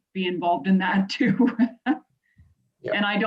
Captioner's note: laughing